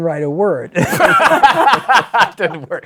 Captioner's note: laughter